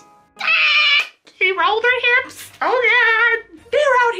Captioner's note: squeals